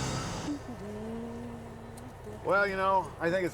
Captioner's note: humming